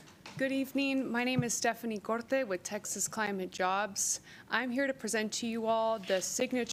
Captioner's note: papers rustling